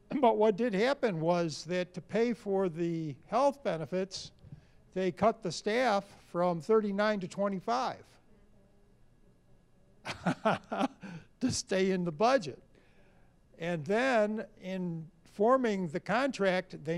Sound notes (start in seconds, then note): 10.0 laughs